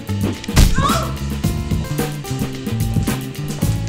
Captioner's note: slap/Woman shouts